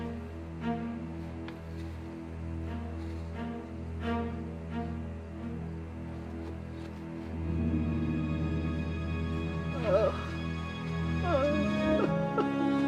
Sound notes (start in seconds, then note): 11.1 cries